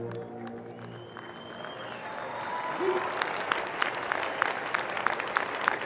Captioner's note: crowd cheering and applauding